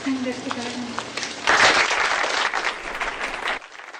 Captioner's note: applause